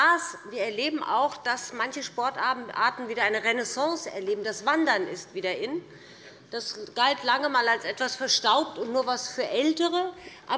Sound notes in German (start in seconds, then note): none